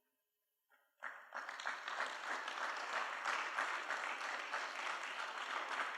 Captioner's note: applause